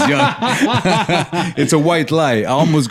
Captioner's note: laughter